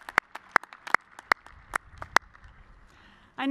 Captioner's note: applause